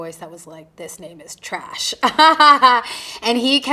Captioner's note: chuckling